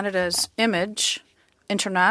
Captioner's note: speaking French